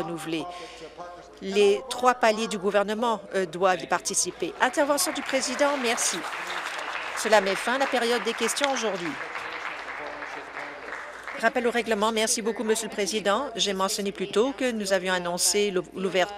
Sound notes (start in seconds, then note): 7.9 applause